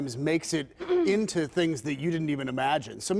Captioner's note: laughter